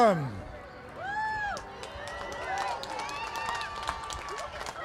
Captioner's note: applause